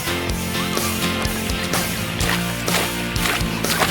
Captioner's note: giggling; kids chattering